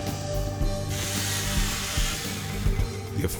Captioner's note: chainsaw buzzing